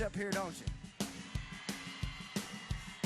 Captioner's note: crowd cheers